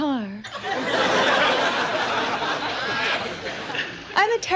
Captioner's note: audience laughs